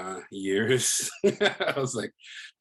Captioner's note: laughs